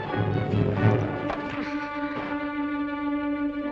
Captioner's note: thud